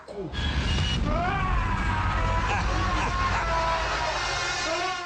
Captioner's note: screaming